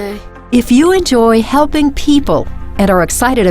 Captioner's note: voiceover